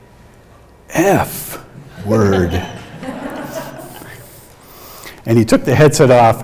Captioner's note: audience laughing